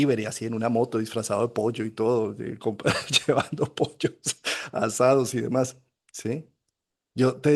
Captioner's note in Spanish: risas